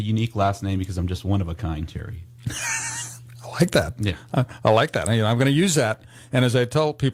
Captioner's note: laughs